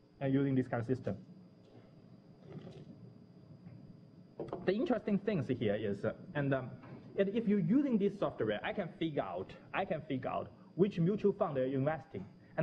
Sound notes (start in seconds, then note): 1.6 pause